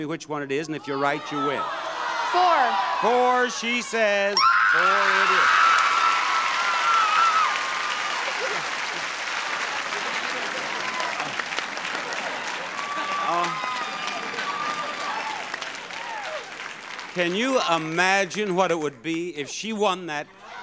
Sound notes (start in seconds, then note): 4.4 screams; 5.4 audience applauds